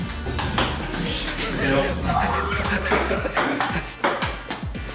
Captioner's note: laughing